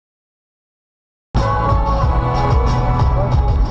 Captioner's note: horn beep